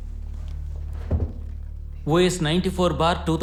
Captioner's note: chair scrapes